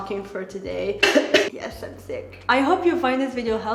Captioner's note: coughs